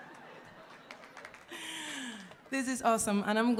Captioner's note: audience applauding